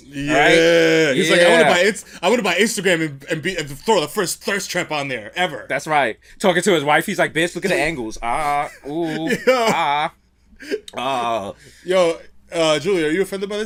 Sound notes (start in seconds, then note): 10.1 laughs